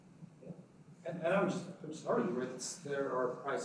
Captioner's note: audience member speaking softly